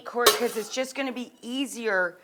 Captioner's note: pot clangs